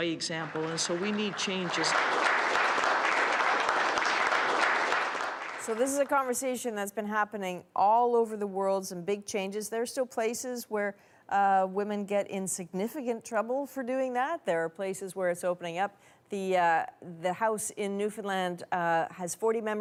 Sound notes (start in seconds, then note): 7.3 applause